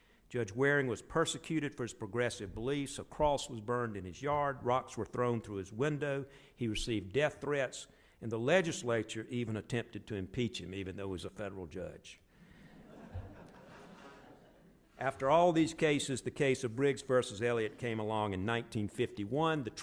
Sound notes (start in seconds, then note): 12.7 audience laughs